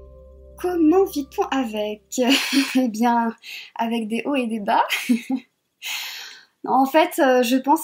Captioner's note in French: rires